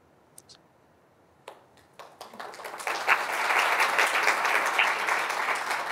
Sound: audience applauding

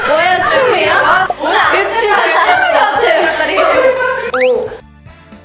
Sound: shouting

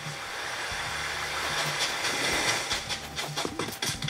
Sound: ocean waves; footsteps

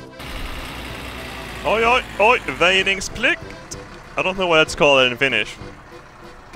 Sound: speaking Swedish

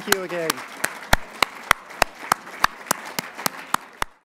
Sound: applause

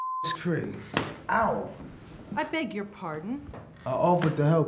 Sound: being hit with a stick

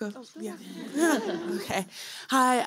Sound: laughter

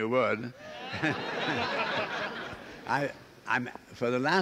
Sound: laughing

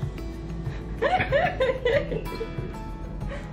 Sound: both laughing

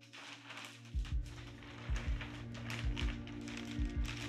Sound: heart beating

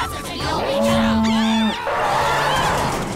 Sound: honking, screaming

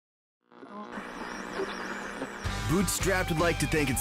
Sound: radio static

